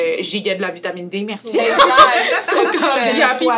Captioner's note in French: rires